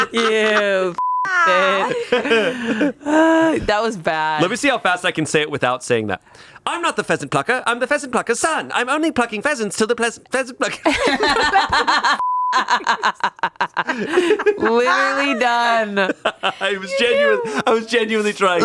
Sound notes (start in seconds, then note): 0.0 everyone laughs; 1.0 beep; 10.8 laughs; 10.8 everyone laughs; 12.2 beep